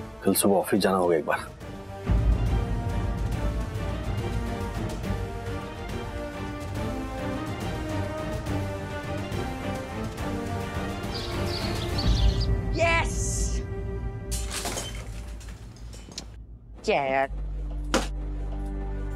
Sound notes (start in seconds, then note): 6.6 suspenseful music; 10.6 birds chirping